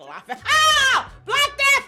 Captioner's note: screaming